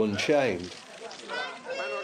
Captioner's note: cameras clicking